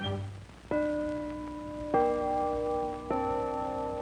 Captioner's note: clock dinging